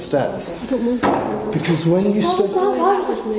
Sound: loudly knocks

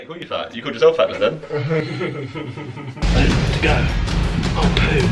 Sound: laughing

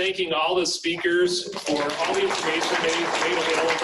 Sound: audience clapping

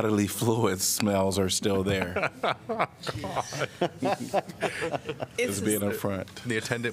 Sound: laughter

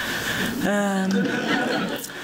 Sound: laughter

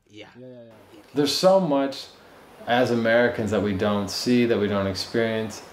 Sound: speaking native language

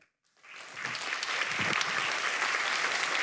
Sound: applause

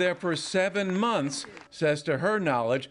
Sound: applause

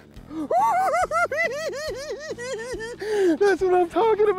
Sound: cackles

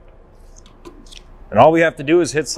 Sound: paper rustling

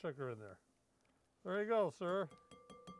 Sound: spoon tapping bowl

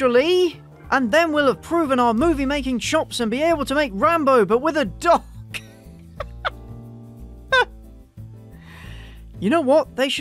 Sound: laugh

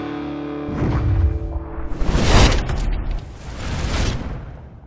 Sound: electronic sounds

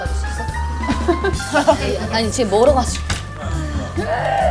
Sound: grunt

